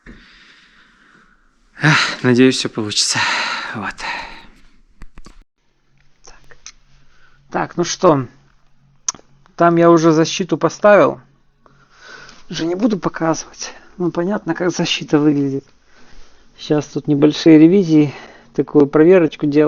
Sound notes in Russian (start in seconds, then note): 1.8 вздыхает; 5.0 тяжело вздыхает